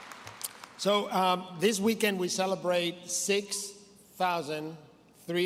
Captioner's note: applause